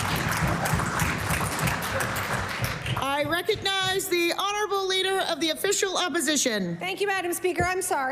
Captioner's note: cheering/Applause